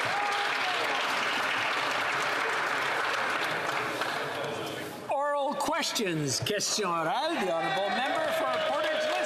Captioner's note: some Applause